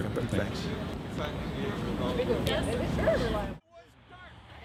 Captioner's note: people chatting